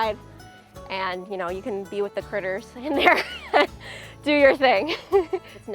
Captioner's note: laughing